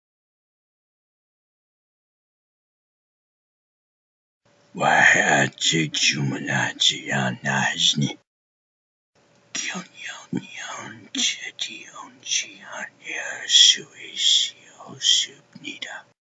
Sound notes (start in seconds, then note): 4.9 speaking korean